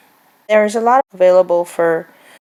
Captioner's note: none